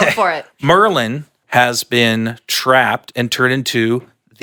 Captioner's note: laughs